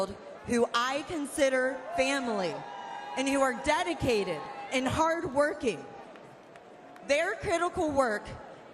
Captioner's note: light applause